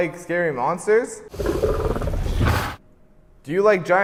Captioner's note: monster growls menacingly